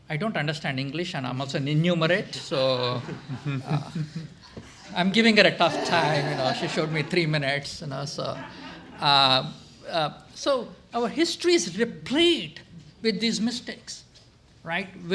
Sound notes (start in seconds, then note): 2.8 laughter